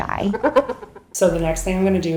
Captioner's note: laughter